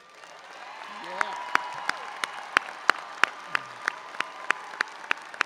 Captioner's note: audience applauding and cheering; clapping